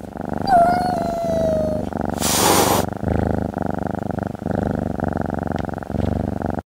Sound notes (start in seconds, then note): 0.4 meow; 1.5 purring